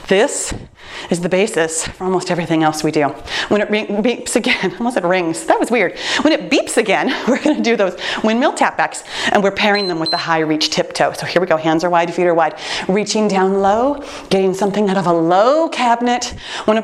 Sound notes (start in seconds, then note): 9.7 timer beeps